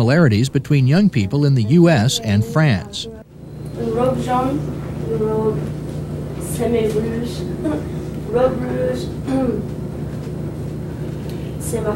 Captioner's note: student speaking French